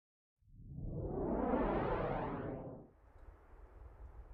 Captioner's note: map whooshing